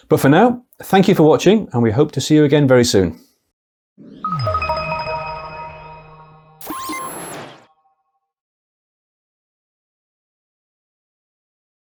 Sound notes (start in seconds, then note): 4.2 enlightening music; 6.9 logo beeps